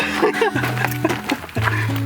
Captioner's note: laughter